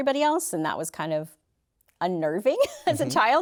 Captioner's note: laughter